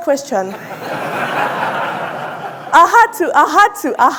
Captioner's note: audience laughing